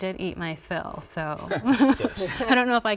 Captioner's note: laughter